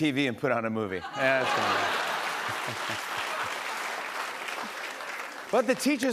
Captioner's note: laughter and applause